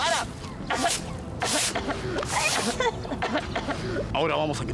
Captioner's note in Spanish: Los sobrinos tosiendo